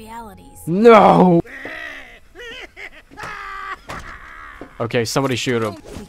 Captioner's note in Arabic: يضحك ... تدمير اللحظة